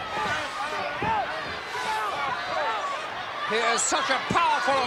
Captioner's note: wrestlers yelling